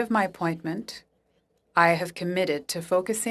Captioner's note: speaking French